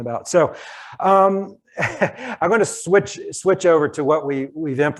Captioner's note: chuckles